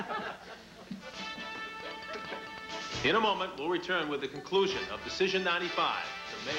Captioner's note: audience laughs